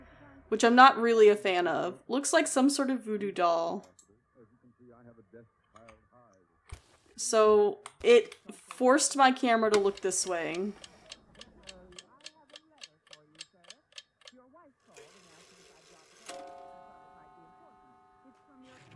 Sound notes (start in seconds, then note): 9.7 clock Ticks Quickly; 11.1 radio Woman Talking; 16.3 clock Chimes